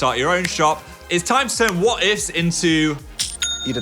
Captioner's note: cash register clinking